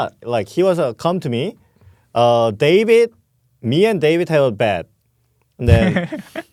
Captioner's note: laughs